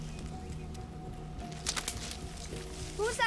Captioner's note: branch snapping